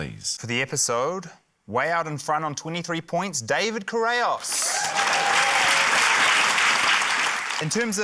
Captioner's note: cheering, applause